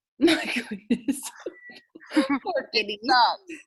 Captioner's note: chuckles